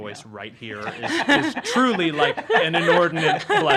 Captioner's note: laughing